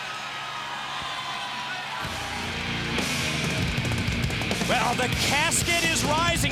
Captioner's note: crowd chatter